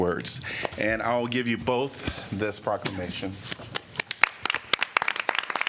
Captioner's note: applause